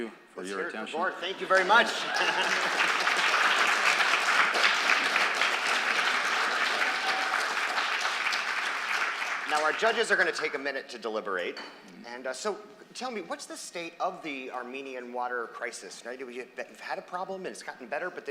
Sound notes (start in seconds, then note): 1.2 applause